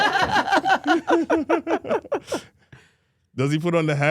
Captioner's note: all laughing